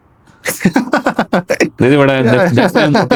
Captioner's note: laughter